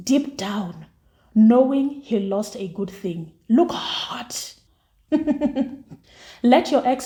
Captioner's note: laughs